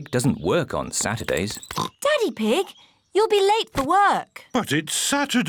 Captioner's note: oinks